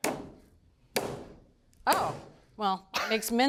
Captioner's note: tenderizer pounding